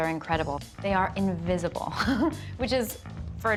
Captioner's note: laughs